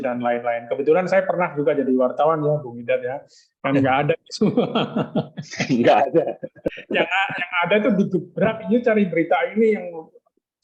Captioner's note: laughs